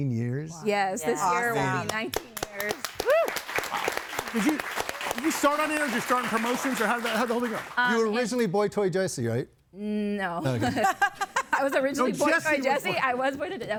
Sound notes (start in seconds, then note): 1.8 audience applauding; 10.4 laughing